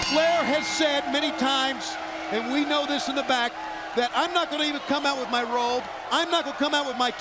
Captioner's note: bell ringing